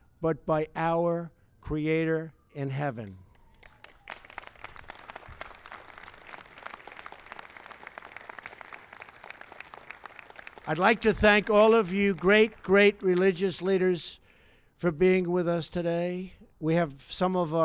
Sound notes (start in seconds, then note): 3.3 applause